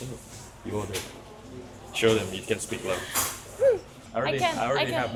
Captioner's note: suddenly whispering to each other